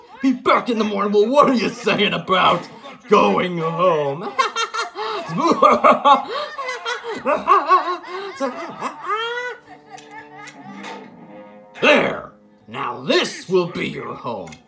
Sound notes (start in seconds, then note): 4.2 Ash and Bowser guffawing